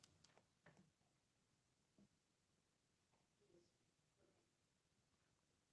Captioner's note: speaking faintly